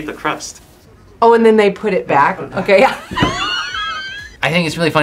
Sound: laughs

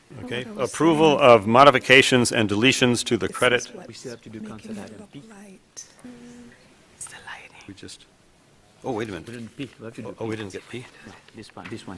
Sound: chatter

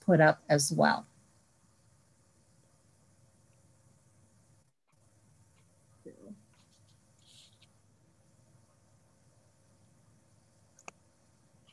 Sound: silence

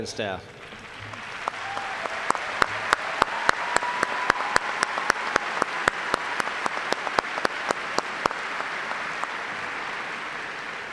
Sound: applause

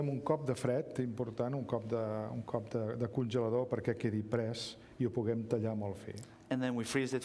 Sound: speaking catalan

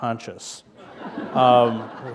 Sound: laughter

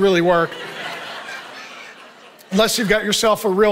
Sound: audience laughing

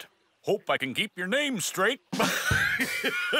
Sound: laughing

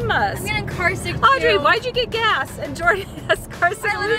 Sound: laughs

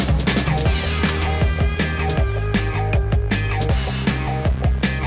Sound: camera clicks

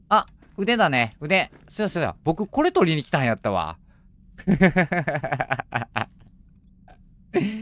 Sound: laughs

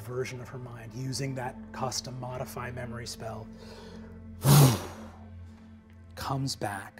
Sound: blows

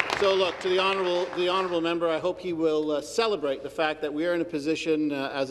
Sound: some Applause

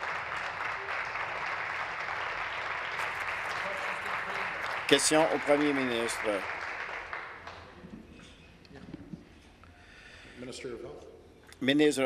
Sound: applause

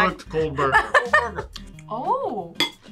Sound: laughs

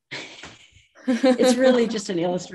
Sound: laugh

